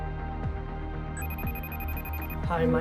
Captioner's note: phone rings